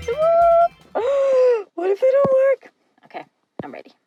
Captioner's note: gasping